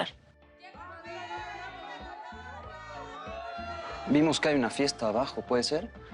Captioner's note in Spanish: Algarabía de la boda